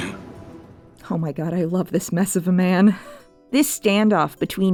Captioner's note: laughs